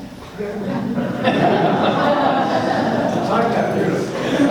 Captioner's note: laughs